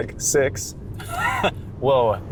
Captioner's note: chuckles